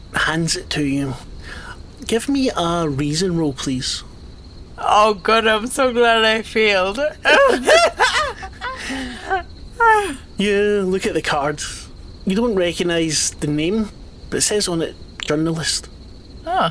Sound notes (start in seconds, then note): 7.2 both laugh